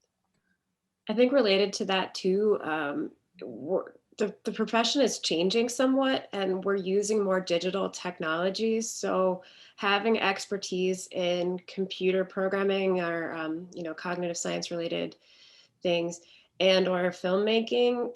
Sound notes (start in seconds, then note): none